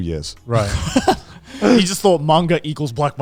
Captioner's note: laughing